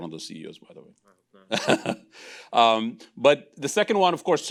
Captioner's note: laughing